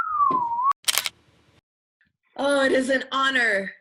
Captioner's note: camera clicking